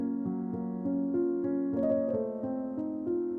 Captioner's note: none